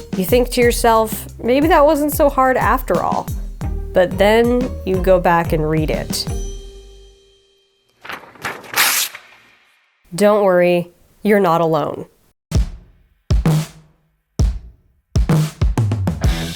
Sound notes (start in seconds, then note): 8.0 page tearing; 12.6 upbeat instrumental music